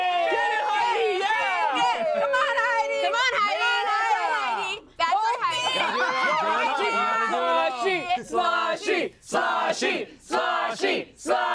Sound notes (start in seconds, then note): 5.2 everyone yells